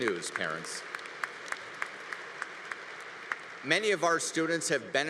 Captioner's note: congregation applauding